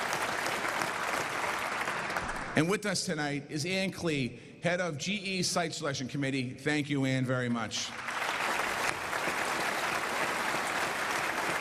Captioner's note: applause